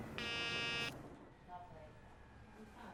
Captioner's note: beeping